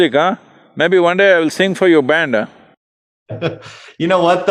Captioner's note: laughs